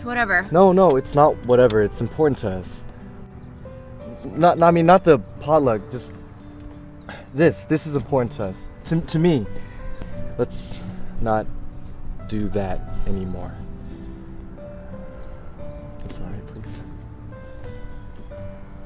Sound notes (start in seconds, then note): 9.8 enunciating